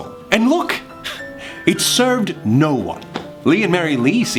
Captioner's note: laughs